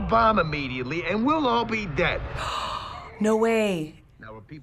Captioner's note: gasping